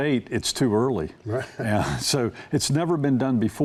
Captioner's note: laughs